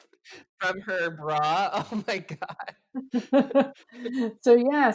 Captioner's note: both laugh